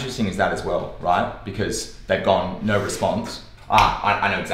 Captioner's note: clicks